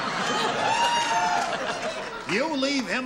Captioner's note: laughter